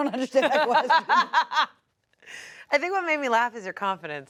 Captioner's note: everyone laughs